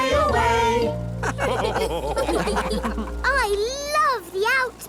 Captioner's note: all laugh